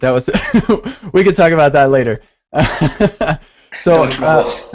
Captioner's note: laughs; laughs